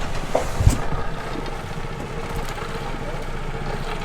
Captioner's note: boat engine rumbling